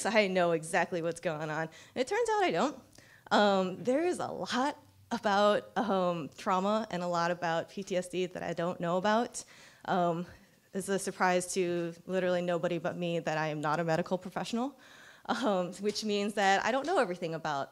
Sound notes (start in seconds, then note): none